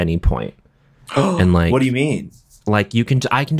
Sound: gasps

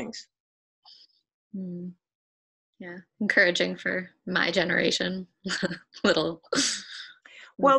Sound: smiles and laughs

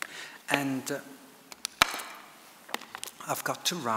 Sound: water bottle creaks

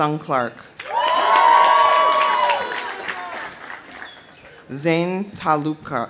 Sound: audience cheering; audience applauding

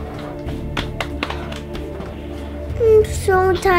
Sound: slapping

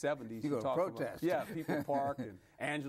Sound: laughs

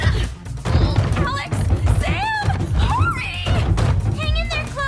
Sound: shouting

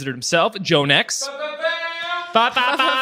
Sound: offscreen Voice; laughs

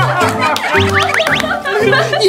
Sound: clap clap clap

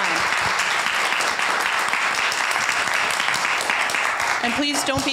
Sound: group applauding

